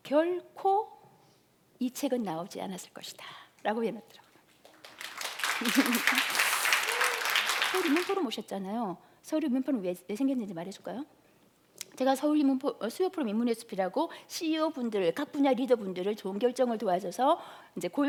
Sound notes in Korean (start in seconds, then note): 4.5 박수